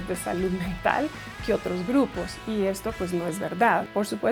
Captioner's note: speaking in Spanish